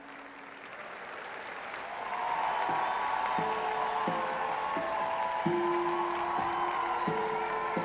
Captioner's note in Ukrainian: оплески